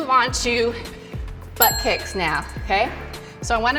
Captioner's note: bell rings